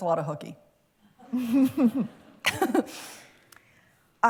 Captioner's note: laughter